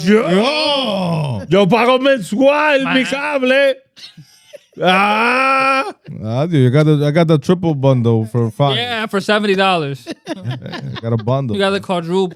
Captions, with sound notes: (Speaking In Foreign Language) (Laughing) I got the triple bundle for five. Yeah, for $70. (Laughing) Got a bundle.